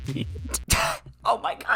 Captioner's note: laughs; talking through laughter